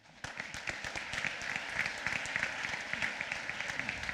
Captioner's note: applause